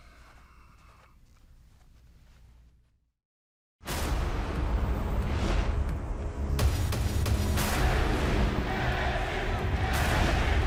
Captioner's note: breathing hard; fans chanting